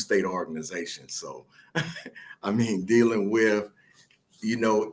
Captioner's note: laughs